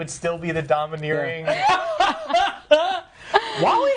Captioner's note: laughing